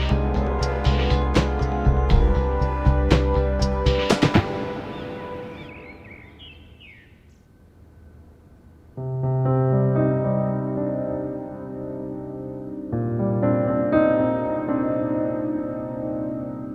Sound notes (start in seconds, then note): 5.8 birds chirping; 9.0 sombre music